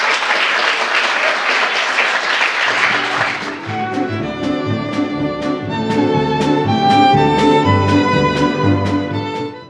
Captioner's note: applause